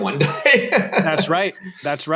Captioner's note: laughs